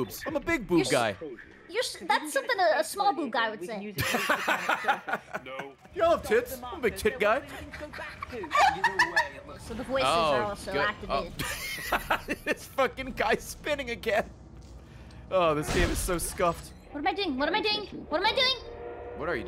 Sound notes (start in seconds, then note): 4.6 laughs; 11.4 laughs